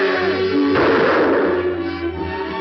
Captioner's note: gunshot